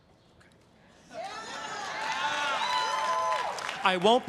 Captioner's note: everyone cheering and applauding